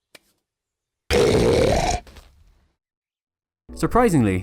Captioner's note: BIG snort